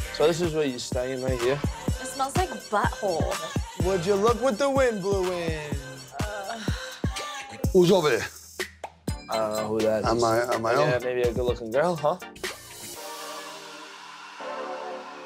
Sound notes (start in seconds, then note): 6.3 frustrated exhale; 12.4 upbeat music